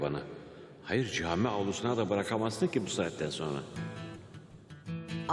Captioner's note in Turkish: Timuçin iç ses